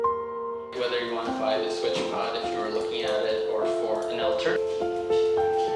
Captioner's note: man talking on computer